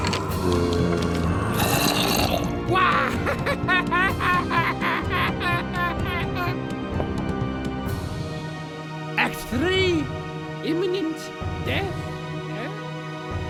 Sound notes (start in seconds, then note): 1.6 Gaylord_Steambath laughs maniacally